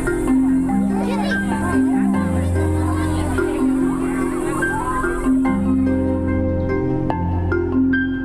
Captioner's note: CROWD OOHs AND AHs